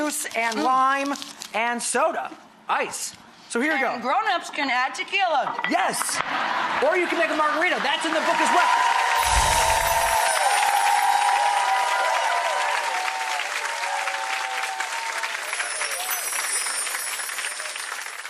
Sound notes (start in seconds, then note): 6.2 laughter; 10.6 cheering